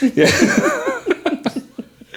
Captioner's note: laughing